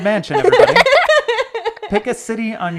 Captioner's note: laughing